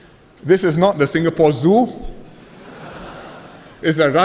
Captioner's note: laughter